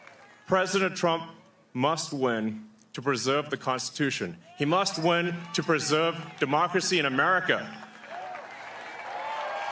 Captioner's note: cheering